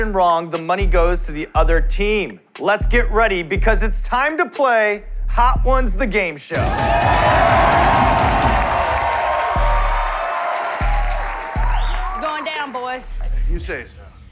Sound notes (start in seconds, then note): 6.5 cheers and applause